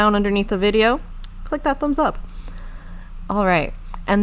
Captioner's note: none